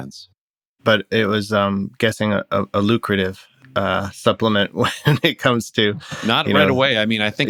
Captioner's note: laughter